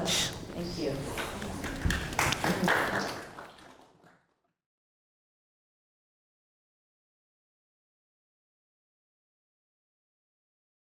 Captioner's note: applause